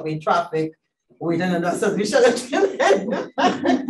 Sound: laughs

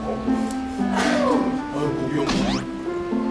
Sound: blowing

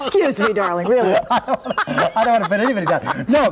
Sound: laughing

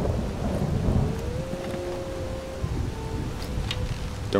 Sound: wolf howling

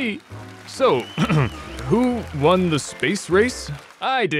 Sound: clears throat

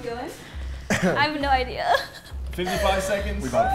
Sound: coughs

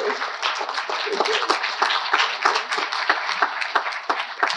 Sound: audience applauding

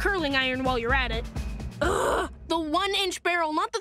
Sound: groaning

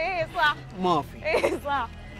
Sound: laughs

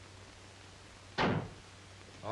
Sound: slams door

